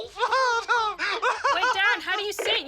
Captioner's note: laughs